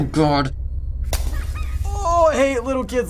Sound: shattering noises; ghostly laughter

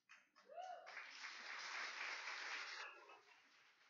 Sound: cheers and applause

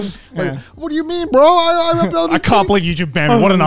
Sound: imitates angry YouTuber

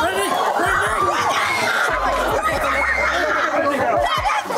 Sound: screaming

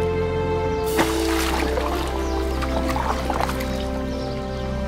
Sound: water splashing

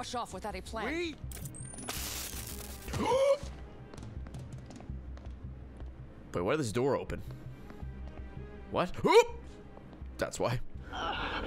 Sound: gasps

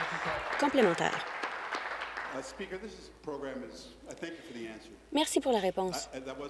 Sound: applause

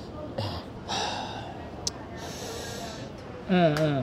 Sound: sighs

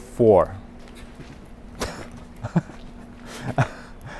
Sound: chuckles

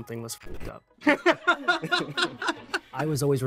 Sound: laughs

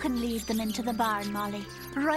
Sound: cheep cheep cheep

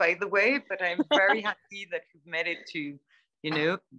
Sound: laughter

